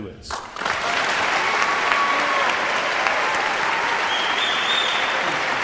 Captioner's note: audience cheering and applauding